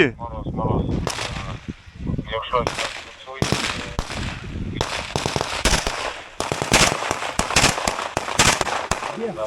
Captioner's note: sound of gunshots